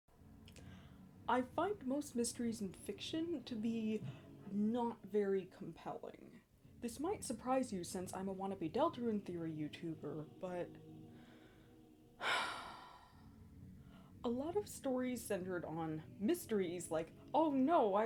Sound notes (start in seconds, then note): 12.2 sigh